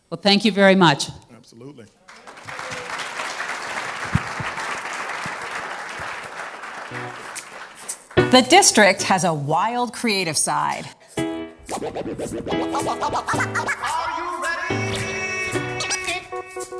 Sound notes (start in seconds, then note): 5.8 applause